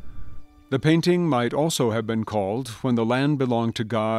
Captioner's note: voiceover